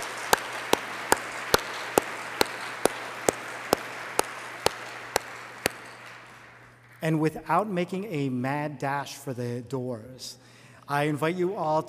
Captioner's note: applause